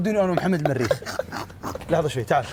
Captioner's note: laughs